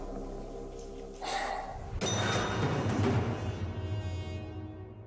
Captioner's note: sigh